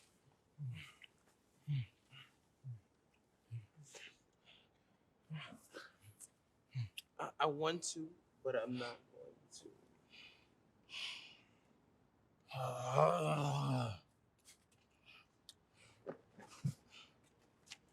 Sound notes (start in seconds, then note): 12.5 groaning